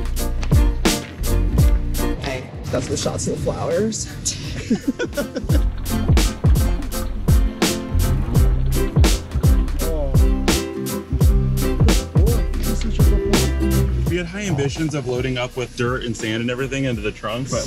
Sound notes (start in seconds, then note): 4.4 laughter; 6.9 cheerful music